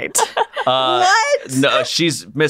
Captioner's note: laughs